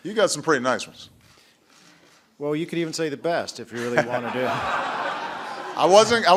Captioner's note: laughter